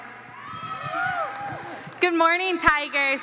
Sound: audience cheers

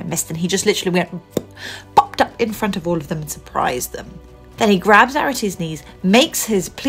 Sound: pop

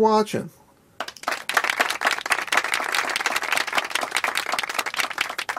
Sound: people clapping

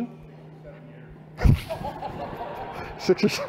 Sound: laughter

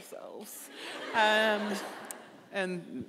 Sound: audience laughing

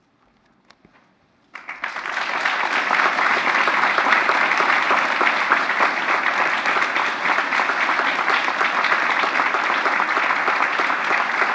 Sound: applause

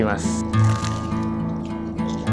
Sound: pie crunches

